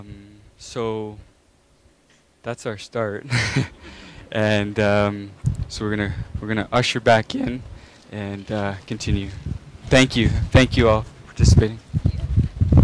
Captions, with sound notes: So that's our start. (laughing) And so we're going to usher back in and continue. Thank you all for participating.